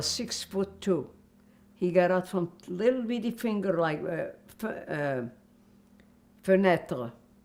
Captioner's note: french